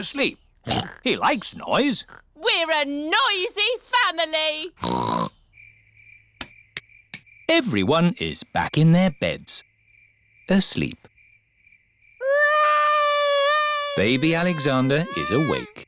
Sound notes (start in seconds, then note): 0.6 oinks; 12.2 baby alexander crying